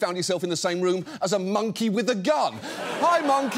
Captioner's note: audience laughs